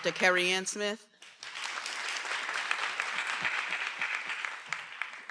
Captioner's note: everyone applauding